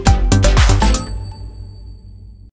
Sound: upbeat music; bell rings

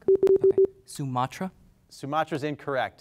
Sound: timer beeping

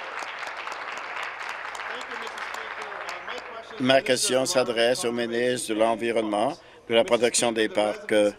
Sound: applause

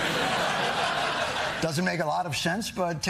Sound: laughter

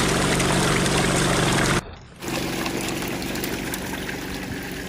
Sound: machine whirling

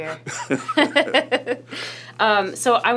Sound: laughter

